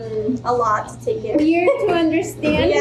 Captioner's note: chuckles